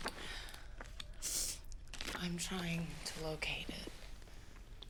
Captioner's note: sniffles